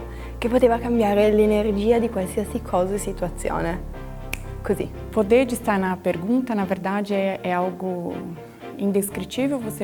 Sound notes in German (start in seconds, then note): 4.3 Schnipp